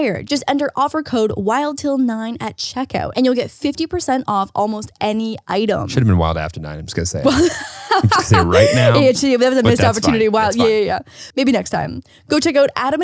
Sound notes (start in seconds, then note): 7.2 laughing